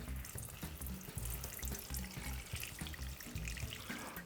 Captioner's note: water splashes